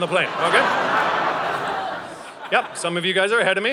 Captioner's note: audience laughing